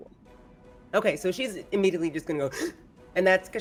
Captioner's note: gasps